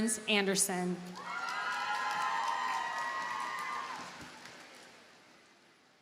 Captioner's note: audience cheers and applauds